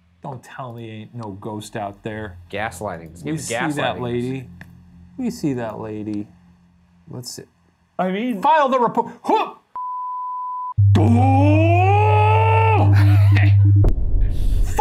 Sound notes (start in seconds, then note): 9.5 video game screen beeping; 10.7 gong chiming; 10.9 rage yelling; 12.2 laughs